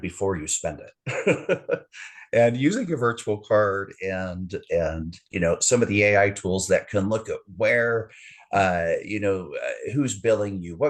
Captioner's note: haha